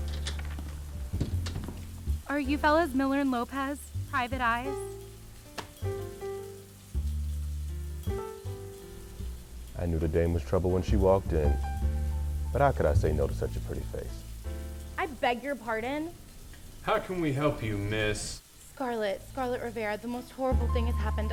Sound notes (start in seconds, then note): 0.0 door closes; 0.3 rainfall; 1.9 rainfall; 5.5 newspaper slaps desk; 14.4 music stops